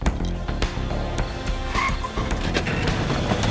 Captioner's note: car screeches to a stop